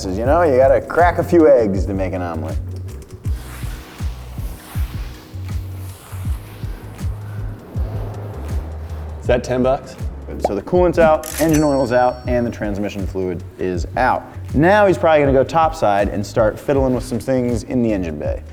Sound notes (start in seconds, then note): 3.8 mop scratching; 3.8 upbeat music continues